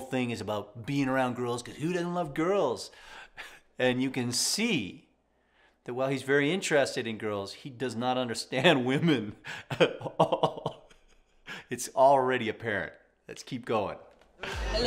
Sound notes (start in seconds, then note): 9.4 chuckles